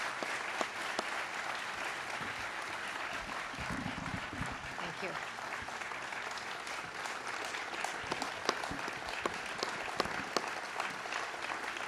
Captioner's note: applause